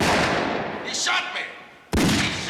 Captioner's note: gun shot; gun shot